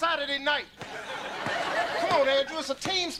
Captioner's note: audience laughter